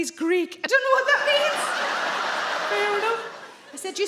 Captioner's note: audience laugh